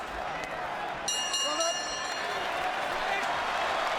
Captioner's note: bell rings